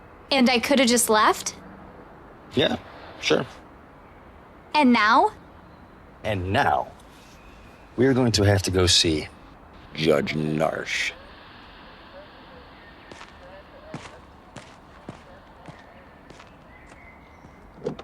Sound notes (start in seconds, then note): 14.5 footsteps thudding